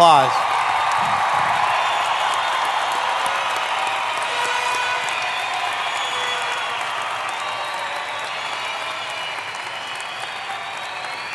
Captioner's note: applause